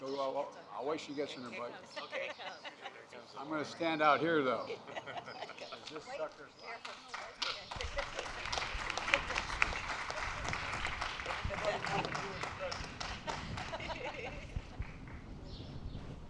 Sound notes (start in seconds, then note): 5.2 applause